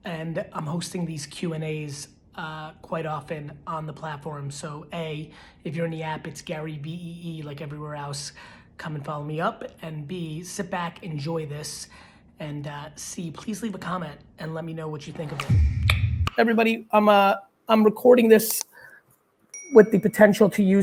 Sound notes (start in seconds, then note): 15.3 pop sound; 16.5 clicks tongue